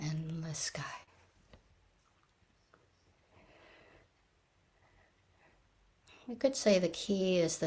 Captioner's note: pause